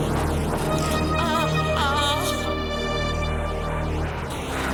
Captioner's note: suspenseful music; woman moaning